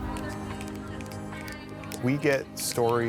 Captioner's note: crowd snapping